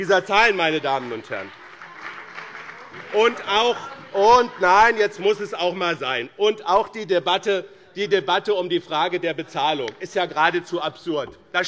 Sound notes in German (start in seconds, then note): 1.7 Beifall bei dem BÜNDNIS 90/DIE GRÜNEN und der CDU